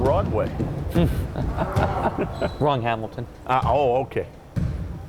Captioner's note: laughs